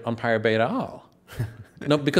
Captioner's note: laughs